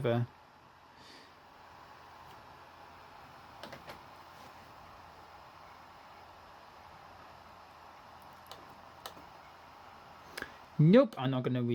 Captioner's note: laptop dvd drive spinning